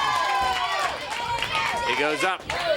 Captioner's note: crowd cheering